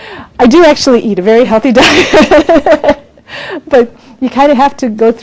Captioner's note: laughs